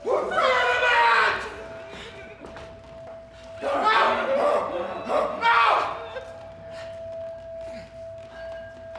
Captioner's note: FERDINAND gasping for air